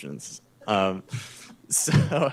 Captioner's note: chuckles; laughs